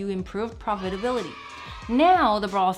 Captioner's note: children cheering